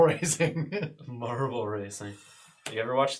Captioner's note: all laugh